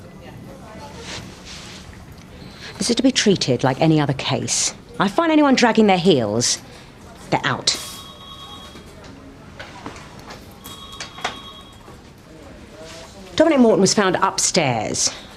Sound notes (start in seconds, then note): 7.4 phone ringing; 7.8 people chattering